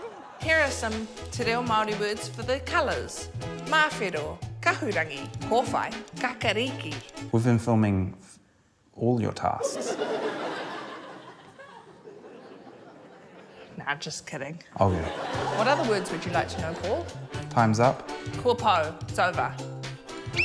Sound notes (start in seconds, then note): 0.0 laughter; 9.6 laughter